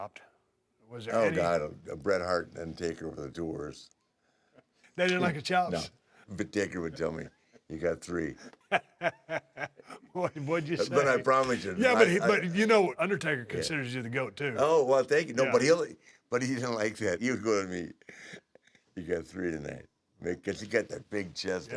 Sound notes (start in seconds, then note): 4.3 laugh; 8.4 laugh